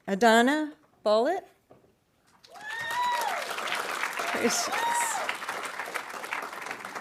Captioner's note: audience applauding